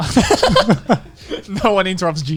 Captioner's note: laughing